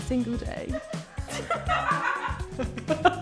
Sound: people laughing; employee 1 laughs

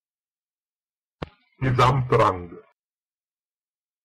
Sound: fast Pronunciation

